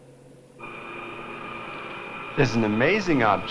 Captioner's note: machinery whirring